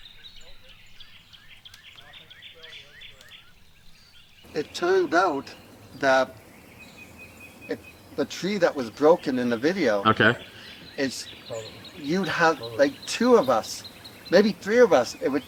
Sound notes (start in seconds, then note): 1.6 birds chirping; 1.6 distant chattering